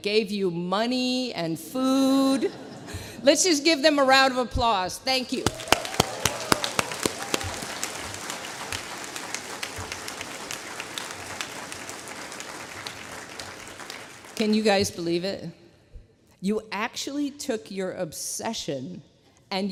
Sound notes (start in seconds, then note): 5.4 applause